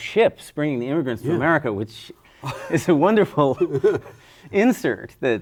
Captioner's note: laughs